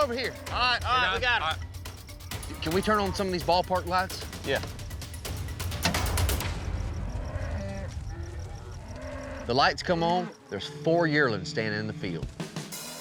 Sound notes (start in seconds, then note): 8.5 cattle mooing